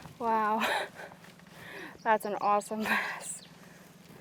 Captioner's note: laughs